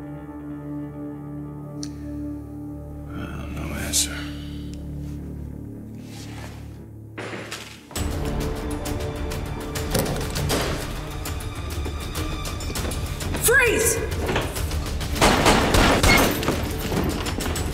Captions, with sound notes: - Well, no answer. [banging] [dramatic music] - Freeze! [guns firing]